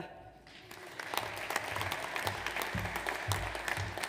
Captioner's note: audience applauds